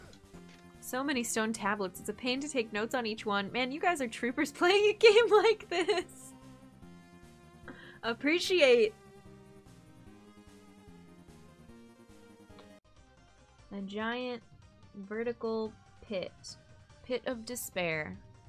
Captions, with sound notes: "So many stone tablets, it's a pain to take notes on each one. Man, you guys are troopers playing a game like this." [Laughing] Appreciate! A giant vertical pit... pit of despair.